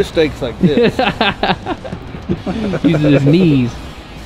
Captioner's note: laughs